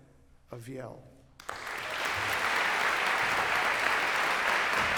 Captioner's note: applause